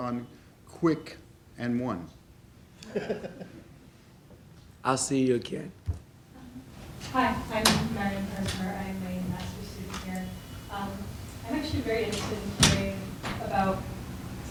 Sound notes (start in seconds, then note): 2.8 laughing